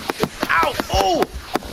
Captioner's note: Smaller projectiles thud in Karm’s chest